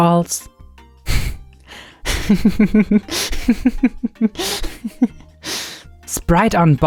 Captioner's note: laughing